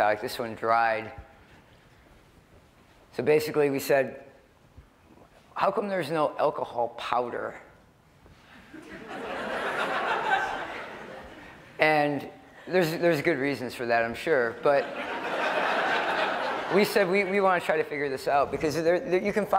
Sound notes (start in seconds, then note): 8.5 laughter